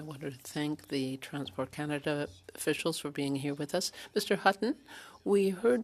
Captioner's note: speaking French